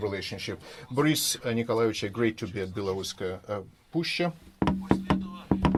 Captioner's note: speaking in foreign language